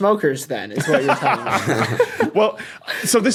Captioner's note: group laughing